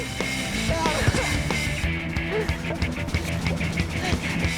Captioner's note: guy laughing